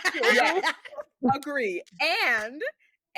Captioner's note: laughing